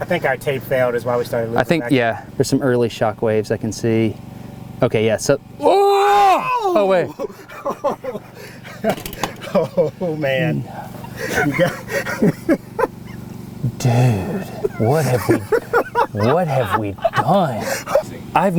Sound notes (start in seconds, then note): 5.6 crew shouts; 8.4 laughs loudly